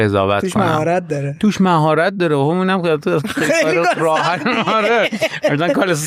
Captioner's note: laughs